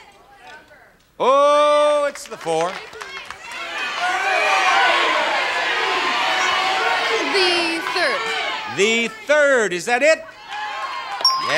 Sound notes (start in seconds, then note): 3.1 audience yelling; 11.2 bell dinging